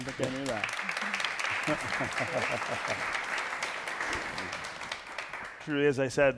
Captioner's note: applause